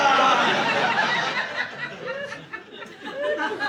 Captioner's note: audience laughing